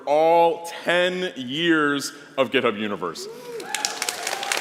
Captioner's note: applause